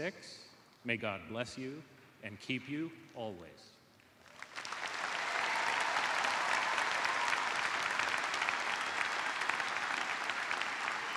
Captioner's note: cheers and applause